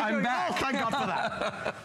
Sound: laughter

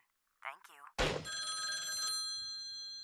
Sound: ringing

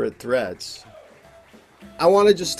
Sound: audience clapping

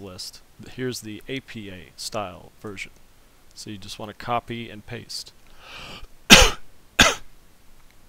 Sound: cough cough

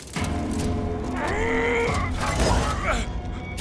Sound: grunting

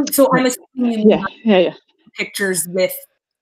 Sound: audio cutting out

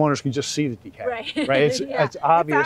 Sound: laughs

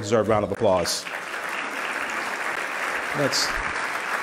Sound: loud clapping

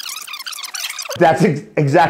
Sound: tape speeding up

